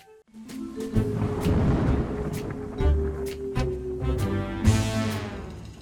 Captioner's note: upbeat music; thunder rumbling